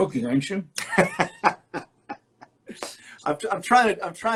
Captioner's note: laughs